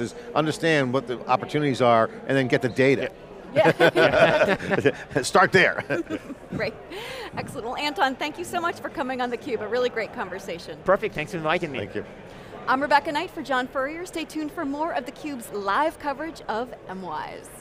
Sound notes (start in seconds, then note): 3.6 everyone chuckling; 5.8 chuckling